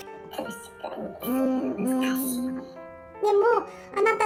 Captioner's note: laughs; laughs